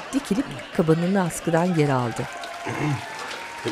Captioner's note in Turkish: Fonda alkışlar